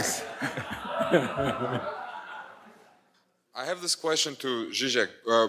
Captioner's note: audience laughs